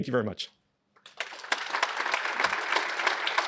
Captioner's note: applause